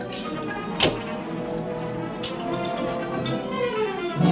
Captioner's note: door banging